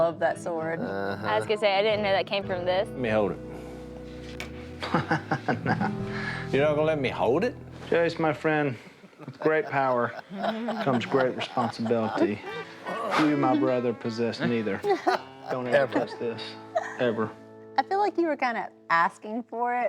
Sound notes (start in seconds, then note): 4.8 laughs